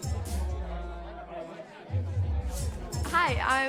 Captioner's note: people chattering